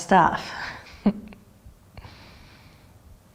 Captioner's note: chuckle